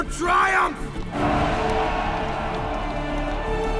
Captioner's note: cheering